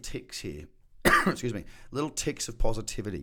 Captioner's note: coughs